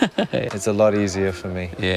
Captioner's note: laughs